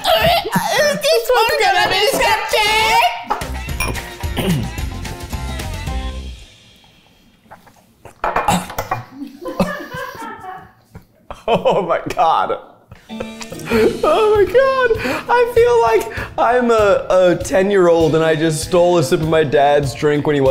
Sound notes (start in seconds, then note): 3.7 glasses clinking; 8.7 crew laughing